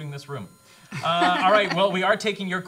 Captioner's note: laughter